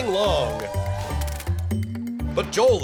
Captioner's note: cheers and applause